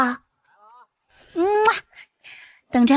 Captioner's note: kiss